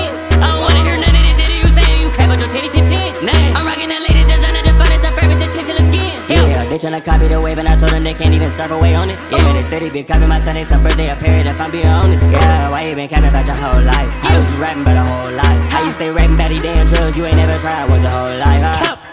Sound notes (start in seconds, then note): 12.2 brr